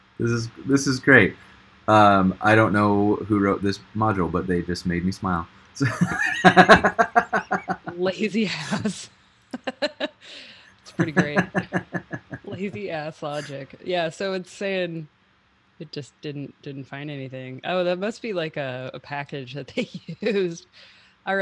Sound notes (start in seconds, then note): 5.8 loudly laughing; 9.6 laughing